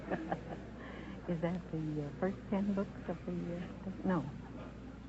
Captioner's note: chuckles; whispering